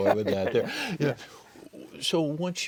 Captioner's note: laughing